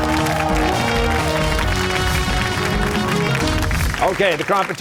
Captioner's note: cheers and applause